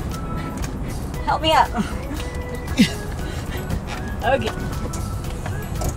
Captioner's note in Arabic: همهمات